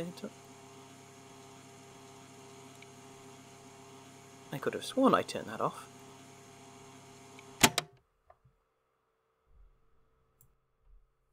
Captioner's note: tape clicks off